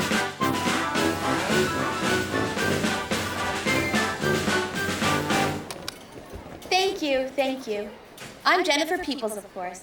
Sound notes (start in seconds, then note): 0.0 jaunty military tune; 5.3 clicks off